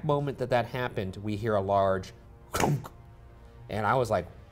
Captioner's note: makes thump sound